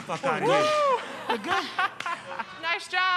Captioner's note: laughs